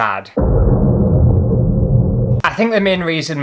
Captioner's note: thud